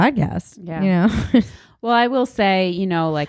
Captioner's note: chuckles